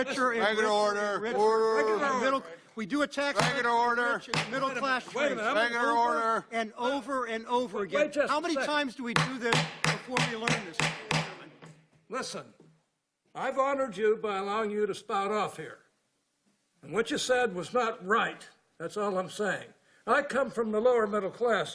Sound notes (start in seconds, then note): 9.1 hammer